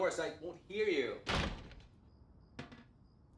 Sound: door slams

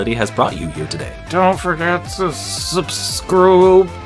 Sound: strained awkward voice

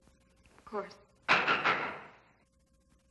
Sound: knocks on door

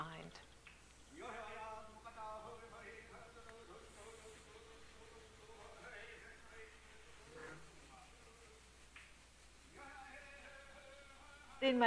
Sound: chanting

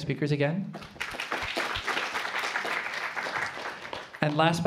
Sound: applause

